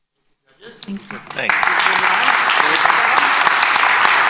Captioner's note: applause